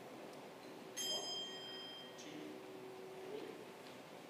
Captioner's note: bell chimes